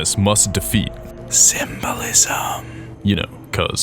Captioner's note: whispers